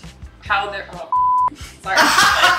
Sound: beeps; laughing

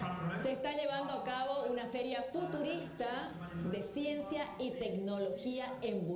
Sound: presenter speaking in Spanish

